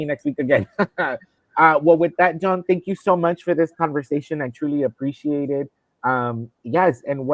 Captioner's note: laughter